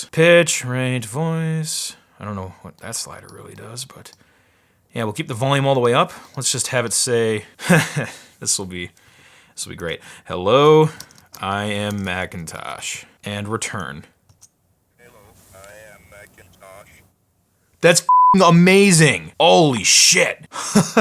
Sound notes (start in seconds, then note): 15.3 robotic Voice; 20.4 laughing